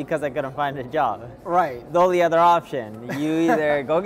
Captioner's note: laughing